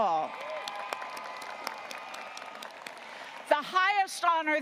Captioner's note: audience cheering and applauding